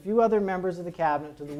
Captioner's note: none